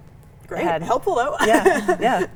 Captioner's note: laughs